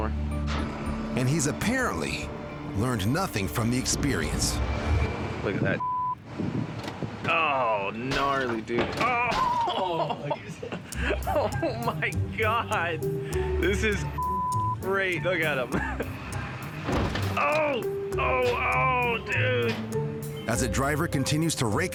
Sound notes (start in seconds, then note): 5.8 beep; 14.2 beep